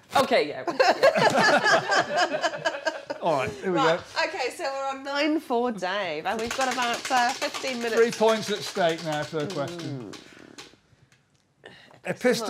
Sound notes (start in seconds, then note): 7.4 wheel clacking